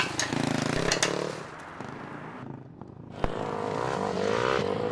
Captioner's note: engine rumbling